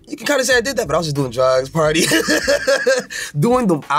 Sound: laughing

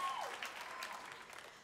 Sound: applause

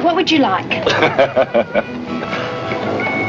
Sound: laughing

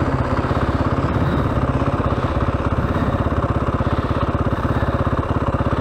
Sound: engine revving

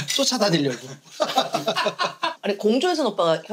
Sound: hahaha

